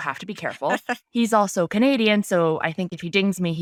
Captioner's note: laughing